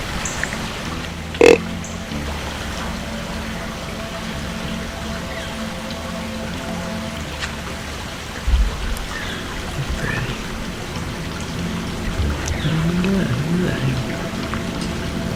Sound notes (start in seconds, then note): 1.4 sound of grunt call; 2.8 sound of creek flowing, whispered voices